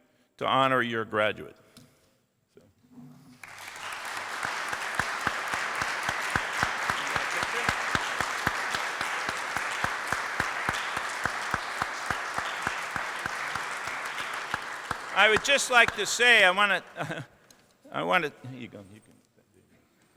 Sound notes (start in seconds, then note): 3.3 applause